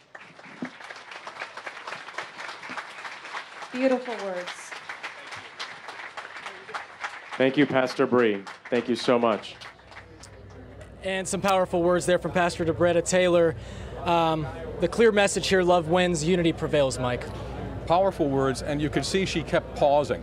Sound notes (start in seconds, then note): 10.1 clapping